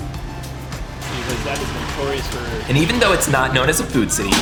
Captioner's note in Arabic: حديث في الخلفية